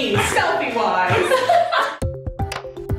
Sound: laughing; fun music

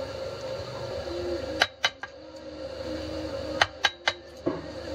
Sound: tapping sound

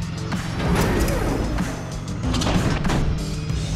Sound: gate lifting

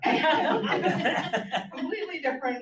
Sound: audience laughs

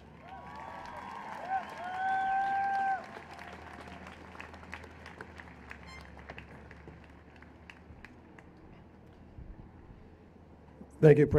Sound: applause and Cheers

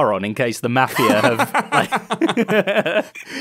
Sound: laughs

